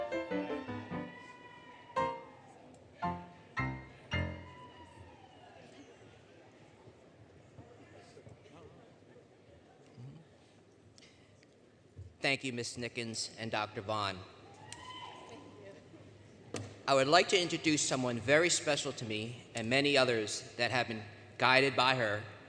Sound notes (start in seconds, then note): 0.0 cheering, Music; 6.2 indistinct Chatter; 14.5 cheers; 15.5 indistinct Chatter